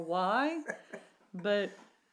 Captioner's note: laughs